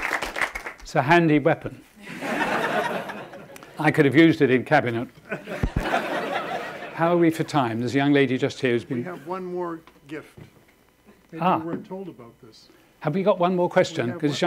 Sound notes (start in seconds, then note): 2.0 audience laughing